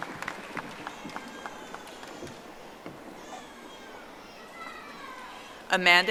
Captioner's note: audience applauding